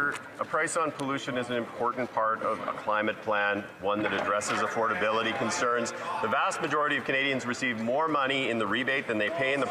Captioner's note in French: voix de l'interprète